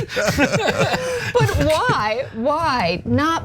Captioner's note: laugh